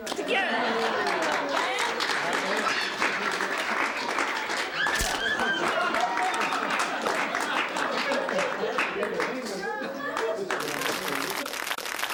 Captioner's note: applause